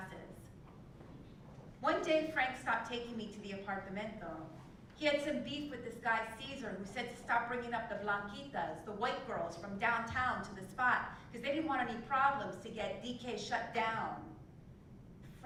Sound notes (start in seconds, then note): none